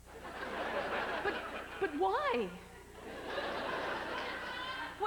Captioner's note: laughter; howling laughter